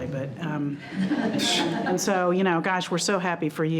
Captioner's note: all chuckling